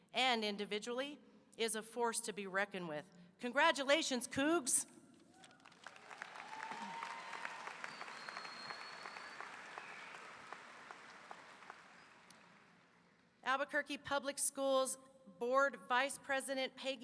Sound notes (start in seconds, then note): 5.4 audience applauding; 5.4 audience cheering